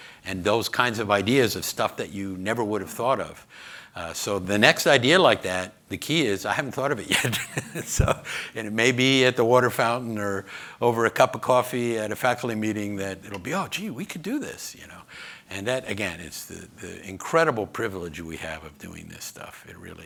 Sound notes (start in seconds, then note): 7.0 laughs